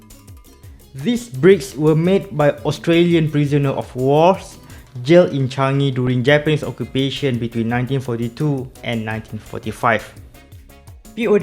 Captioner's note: pow